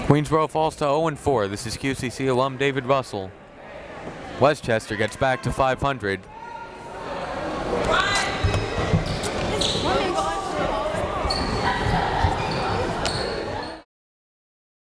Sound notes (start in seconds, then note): 7.6 crowd members talking